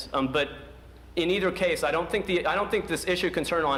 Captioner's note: none